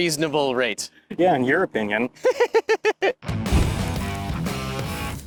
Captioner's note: laughs; cool rock music